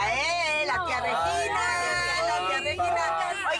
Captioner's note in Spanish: Risas y exclamaciones